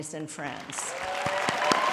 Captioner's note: applause